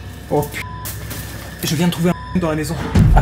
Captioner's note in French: bip